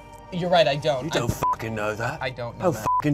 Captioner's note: beep